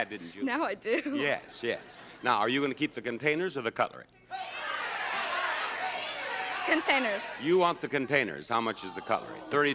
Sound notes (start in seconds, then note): 4.3 audience clamors